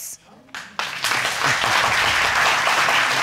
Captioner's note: audience applauding